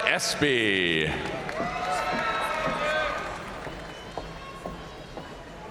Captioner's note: audience cheering and applauding